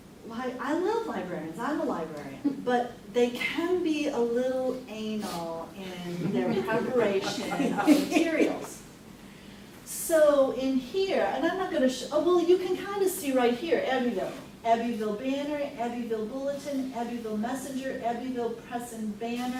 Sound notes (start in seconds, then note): 6.2 everyone laughs